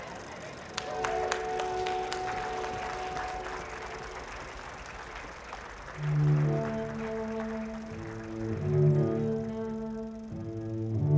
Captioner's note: applause